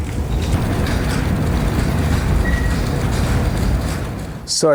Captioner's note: wheels rattling